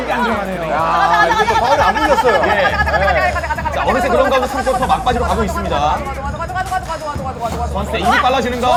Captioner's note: alien language chant